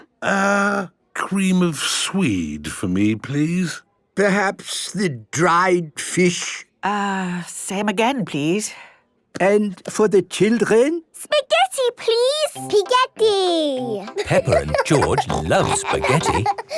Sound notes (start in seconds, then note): 13.8 laughing